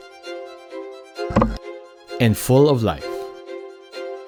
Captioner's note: picture clunks